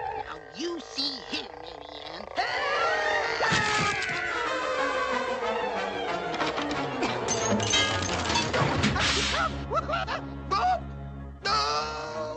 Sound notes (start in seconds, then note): 3.0 trumpet; 5.0 glass shatters; 8.2 stuttering